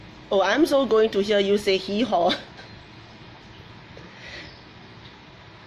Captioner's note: laughs